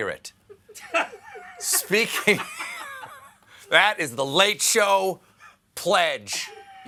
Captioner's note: laughter